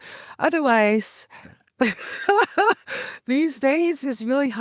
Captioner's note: laughs